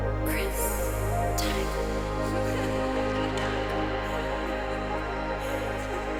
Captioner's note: whispering